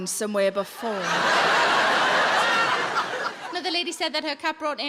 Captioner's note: audience laughs